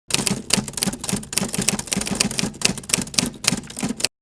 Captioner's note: typewriter typing